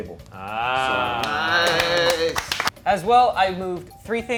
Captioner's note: everyone clapping